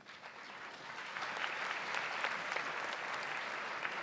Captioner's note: audience applauds